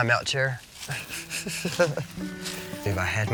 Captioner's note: Stephen laughing